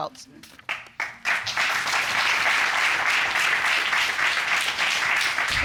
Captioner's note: audience applauds